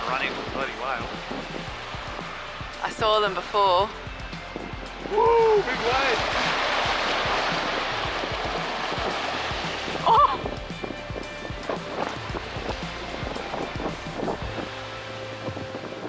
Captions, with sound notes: Went running from 30 whale. - I saw them before. - Whoo, big waves. (gasps)